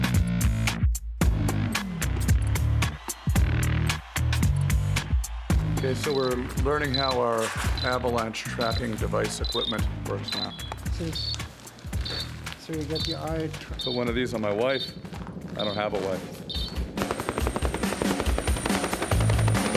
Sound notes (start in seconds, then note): 15.1 helicopter blades spin